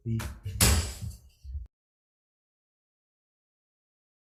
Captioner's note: gavel banging